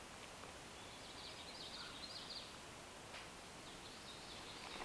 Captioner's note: birds chirping